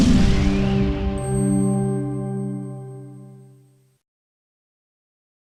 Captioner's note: chimes ringing